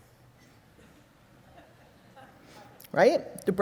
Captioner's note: audience laughing